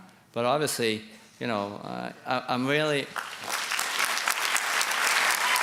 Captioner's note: applause